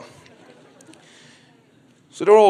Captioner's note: crowd laughs